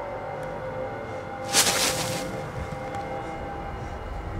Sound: loud rustle

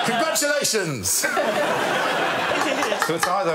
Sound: laughter

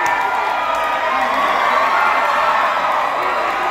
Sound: cheering swells

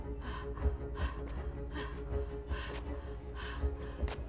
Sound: breathing heavily

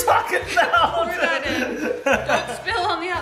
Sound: laughing

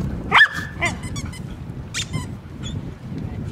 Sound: squeak squeak

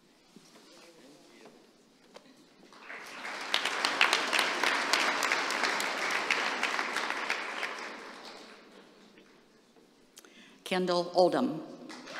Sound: applause

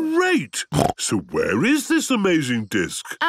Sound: snorting

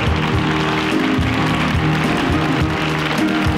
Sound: applause

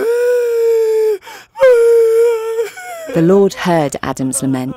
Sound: Adam weeping

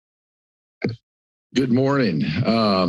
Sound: mic thumps

